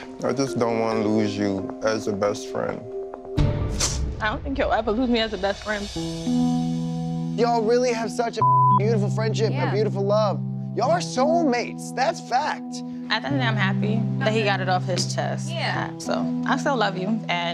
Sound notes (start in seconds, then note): 6.0 heartfelt music; 8.4 beep